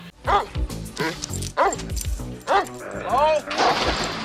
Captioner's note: dog barking